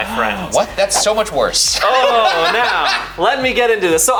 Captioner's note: laughs